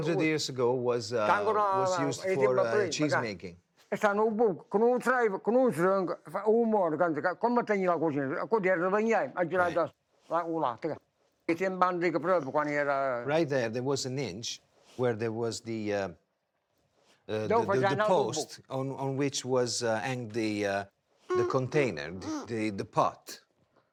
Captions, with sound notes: 100 years ago was used for cheese making. (speaking foreign language) Right there, there was an inch where there was the post on which was hanged the container, the pot.